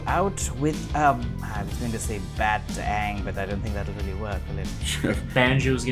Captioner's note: laughter